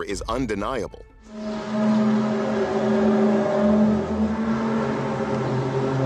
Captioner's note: groaning sound